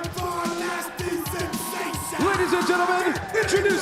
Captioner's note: crowd cheering